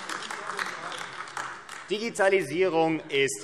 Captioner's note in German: Beifall AfD